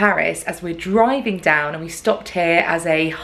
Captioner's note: none